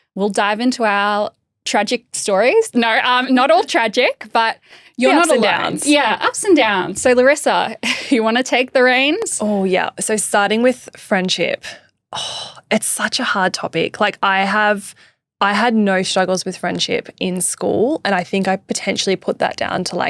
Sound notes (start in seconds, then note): 5.1 laughing